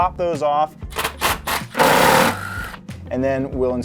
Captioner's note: drill popping